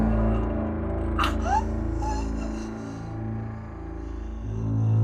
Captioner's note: Betsy gasping